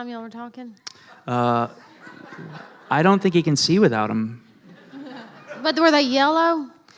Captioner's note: laughing